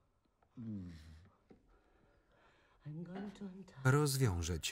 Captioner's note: Tony moans